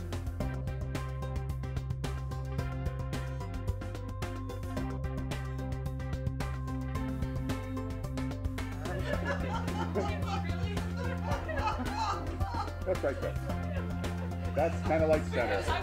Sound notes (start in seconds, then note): 8.8 laugher erupts and reverberates